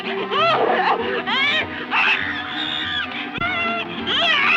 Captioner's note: Ruth screaming